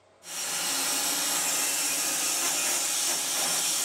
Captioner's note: saw whirring